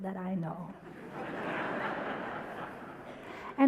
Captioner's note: audience laughter